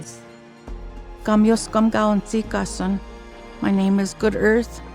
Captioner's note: speaking Cree